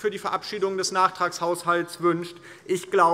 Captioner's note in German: none